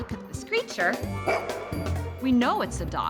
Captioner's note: barks